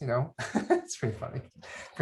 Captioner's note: laughs